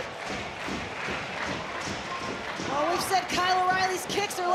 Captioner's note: audience cheering